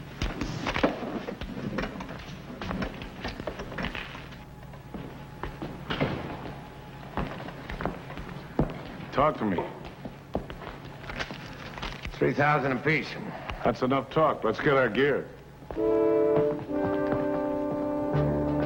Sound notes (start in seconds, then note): 0.3 paper rustles; 5.3 door thuds; 10.7 paper rustles; 15.7 suspenseful music